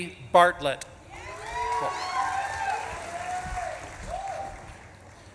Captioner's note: audience claps and cheers